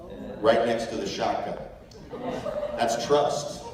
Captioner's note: chuckles